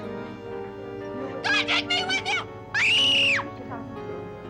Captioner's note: screaming